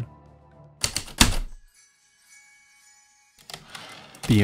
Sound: typewriter keystrokes, return slide

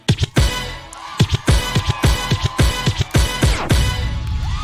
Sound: audience cheering

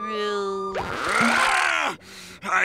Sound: screaming

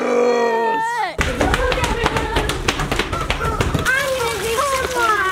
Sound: footfalls clapping

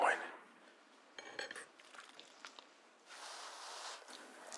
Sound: knife scrapes

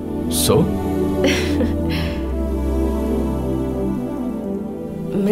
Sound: giggling

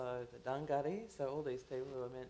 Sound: foreign language

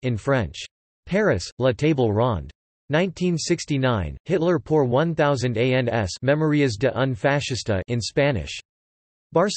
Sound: in Spanish

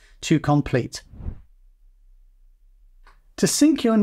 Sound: air whooshing

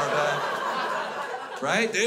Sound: crowd laughs

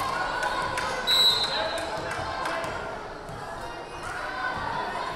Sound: whistle blaring

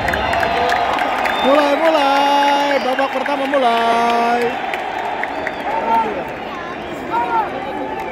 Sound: clap

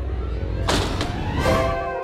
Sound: door closes

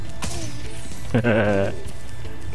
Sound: laughing

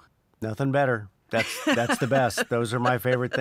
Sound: laughs

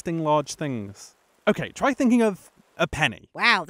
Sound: frustrated noise

